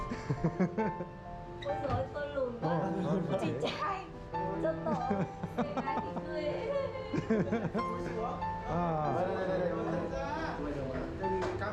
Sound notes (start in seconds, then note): 9.8 laughter